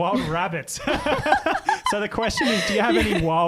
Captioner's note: laughing together